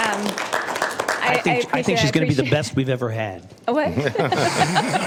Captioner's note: applause